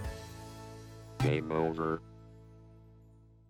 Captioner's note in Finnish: iloista musiikkia; Robottiääni